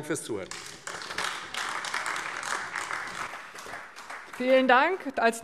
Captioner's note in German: Beifall AfD